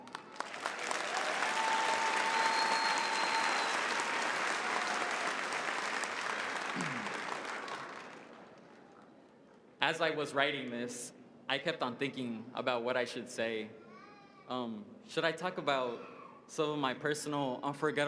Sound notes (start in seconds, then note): 0.0 applause